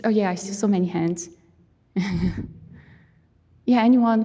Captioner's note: chuckling